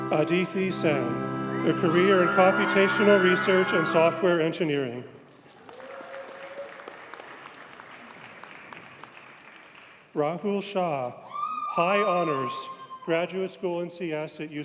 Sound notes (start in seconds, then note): 5.4 audience cheers and applauds